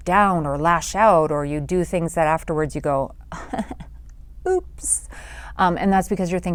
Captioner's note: chuckles